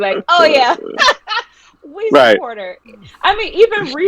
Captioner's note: laughing